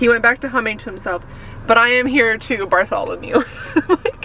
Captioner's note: laughs